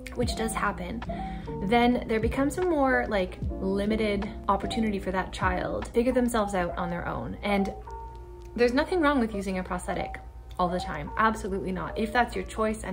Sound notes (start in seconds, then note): none